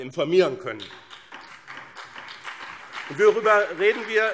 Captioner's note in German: Beifall BÜNDNIS 90/DIE GRÜNEN